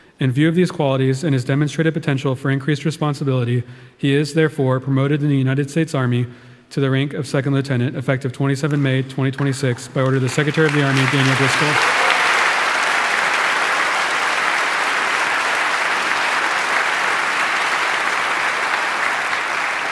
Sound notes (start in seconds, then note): 11.6 audience applauding